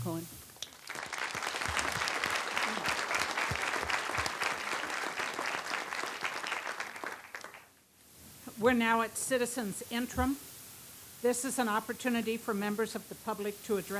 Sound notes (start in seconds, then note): 4.0 applause